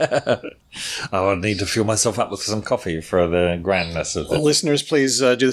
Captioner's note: laughs